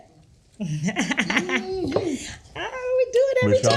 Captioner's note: laughing